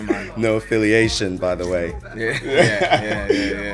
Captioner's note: laughs